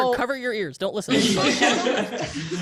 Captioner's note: panelists laugh